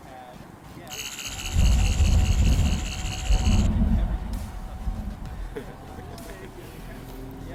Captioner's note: Sonic screwdriver buzzing and distant thunder; laughs